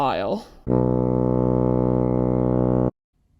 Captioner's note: fog horn